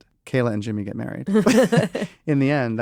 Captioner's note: laugh